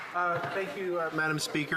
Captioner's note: some Applause